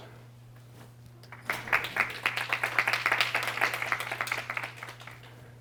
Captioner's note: applause